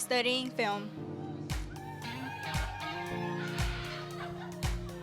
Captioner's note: all cheering